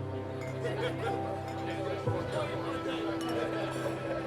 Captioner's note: chattering and glasses clinking